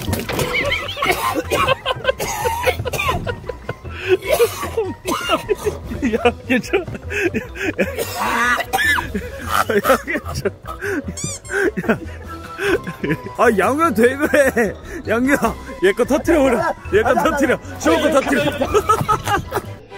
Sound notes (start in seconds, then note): 3.9 vomiting